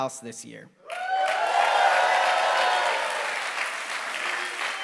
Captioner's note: applause